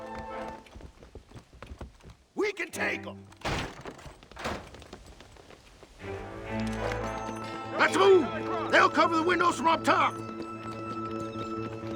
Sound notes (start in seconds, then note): none